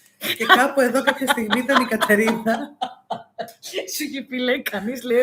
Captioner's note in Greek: γέλια